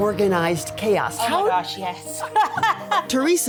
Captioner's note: both laughing